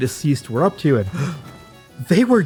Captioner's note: gasps